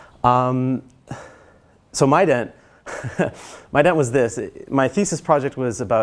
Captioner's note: laugh